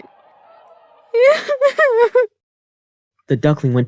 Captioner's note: sob sob sob